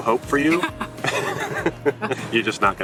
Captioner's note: laughing